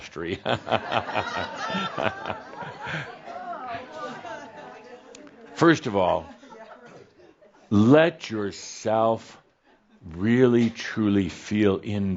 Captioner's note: some chuckles and grumbles from the audience